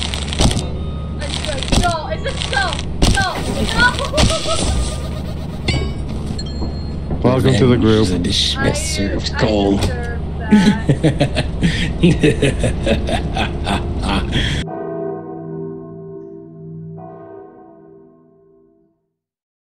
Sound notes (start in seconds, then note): 0.0 shovel scrapes against metal; 0.2 shovel thuds and rings dully; 3.6 giggles; 5.4 shovel clangs to the ground; 5.6 dinging; 10.4 laughs maniacally; 14.9 bells toll